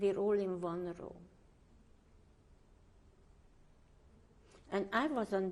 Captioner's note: pauses for 3 seconds